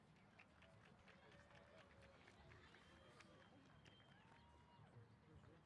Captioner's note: applause & Cheers